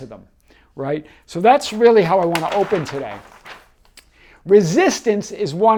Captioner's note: page turning